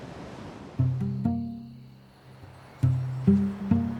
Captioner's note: crickets chirping; soft intriguing music; birds chirping